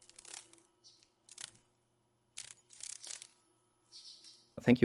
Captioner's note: sounds of a dragon fly